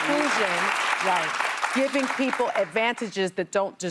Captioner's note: applause